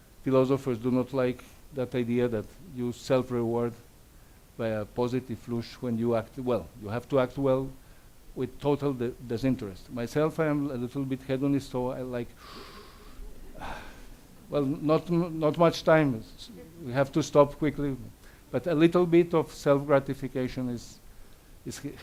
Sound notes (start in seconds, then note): 12.4 breathes loudly; 12.4 audience laughs